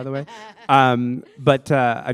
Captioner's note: laughter